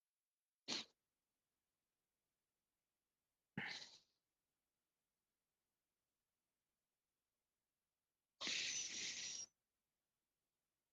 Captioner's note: silence